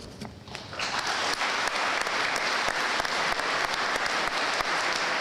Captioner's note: audience applauding